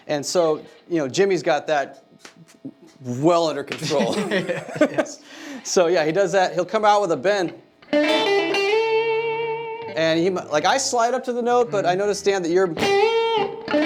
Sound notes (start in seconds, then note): 3.8 laughing; 8.6 guitar music